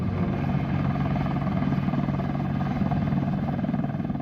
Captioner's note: rotors whirring